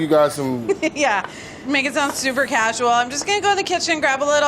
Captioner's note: laughs